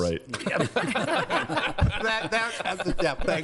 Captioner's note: laughing